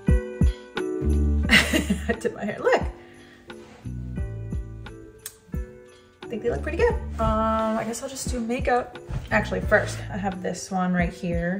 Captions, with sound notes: (laughs) I dipped my hair. Look. I think they look pretty good. I guess I'll just do makeup. Actually first I have this one right here.